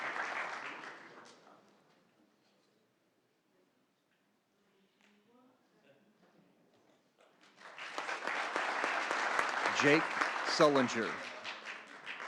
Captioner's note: applause